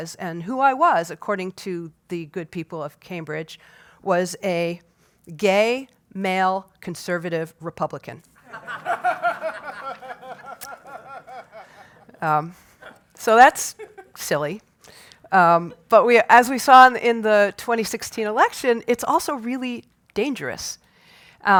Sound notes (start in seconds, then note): 8.4 laugh